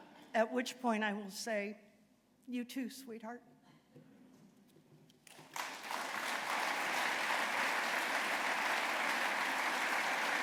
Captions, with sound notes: At which point I will say, you too, sweetheart. [APPLAUSE]